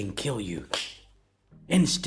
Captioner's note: slaps hand